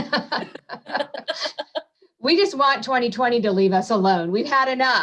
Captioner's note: laughs